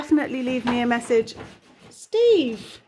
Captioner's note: scratching sounds